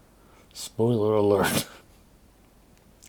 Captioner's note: coughing